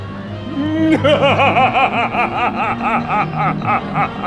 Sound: laughing maniacally

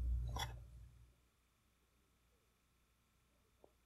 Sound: silence

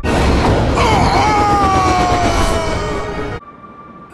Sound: Tonraq screaming

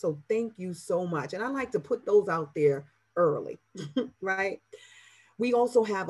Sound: laughs

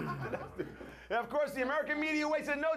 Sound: laughter

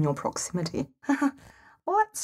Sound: nervous chuckle

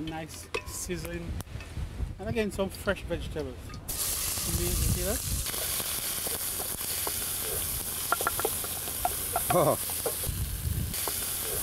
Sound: sizzling

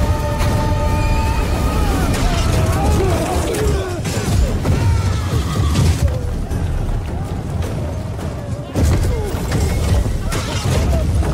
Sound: explosions

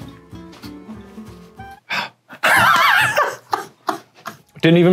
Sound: sighing; laughing

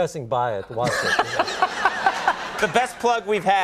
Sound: laughing

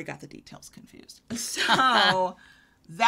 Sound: laughs

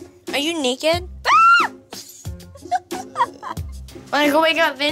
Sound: giggling

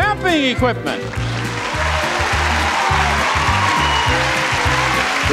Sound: upbeat music; audience applauds

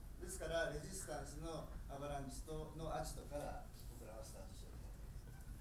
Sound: speaking in foreign language

